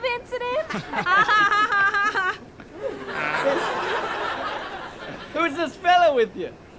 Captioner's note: fake laughter